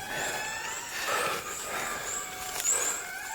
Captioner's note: lemur cry